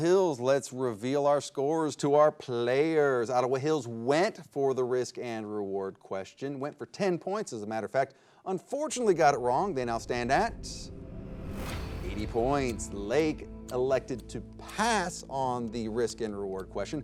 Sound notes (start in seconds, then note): none